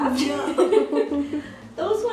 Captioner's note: laughs